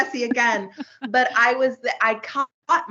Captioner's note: both giggling